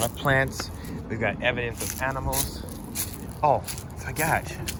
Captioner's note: leaves crunching